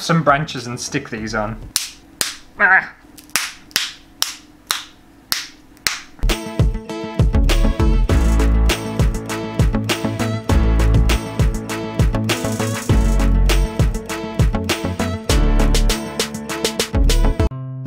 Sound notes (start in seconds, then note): 1.6 stick Snapping Sounds; 17.6 happy Music